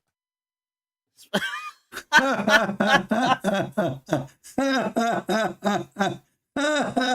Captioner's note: Ketawa